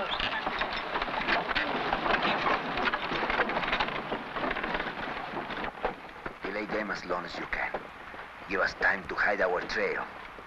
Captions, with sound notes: (carts rattling) (objects clattering) - Delay them as long as you can. You have time to hide our trail.